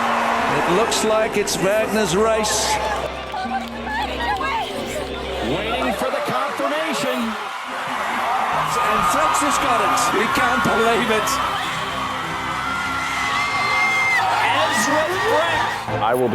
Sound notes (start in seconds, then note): 3.2 supporters chattering; 7.6 supporters cheering; 12.4 supporters cheering